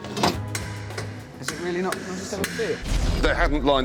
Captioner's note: hammering